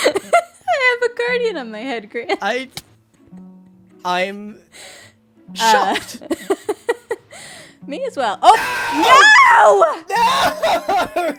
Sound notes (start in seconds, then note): 0.4 laughs; 5.6 laughs